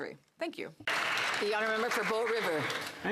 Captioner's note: speaking French